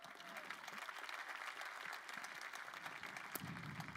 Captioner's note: crowd applauding